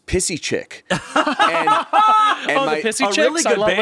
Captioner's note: everyone laughs